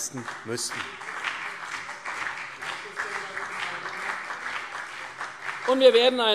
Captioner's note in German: Beifall CDU und BÜNDNIS 90/DIE GRÜNEN